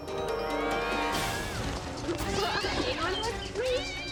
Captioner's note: Pinky yowling